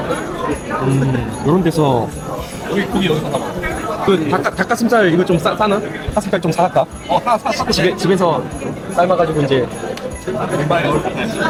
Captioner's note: in Korean